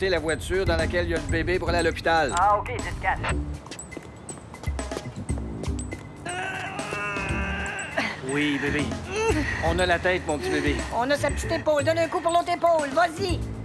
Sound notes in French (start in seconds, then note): 6.2 gémissements